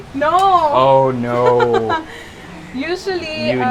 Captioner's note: laughs